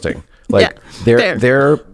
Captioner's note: laughs